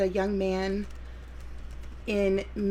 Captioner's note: keyboard typing